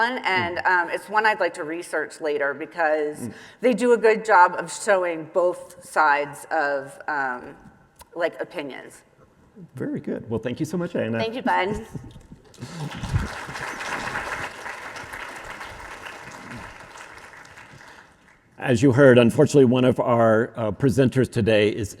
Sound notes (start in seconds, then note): 12.5 audience applauding